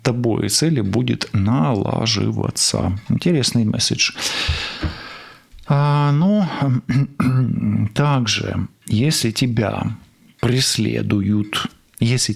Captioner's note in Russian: вздыхает; откашливается